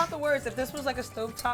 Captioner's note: whisk rustling